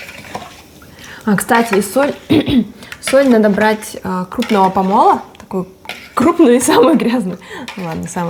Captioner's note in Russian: смеётся